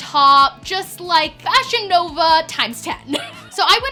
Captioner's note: laughs